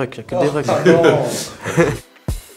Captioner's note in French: Rires